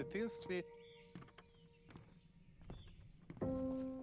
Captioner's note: birds chirping